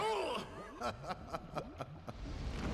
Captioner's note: chuckles